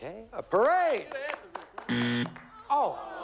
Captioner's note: buzzer